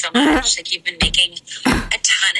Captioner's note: groans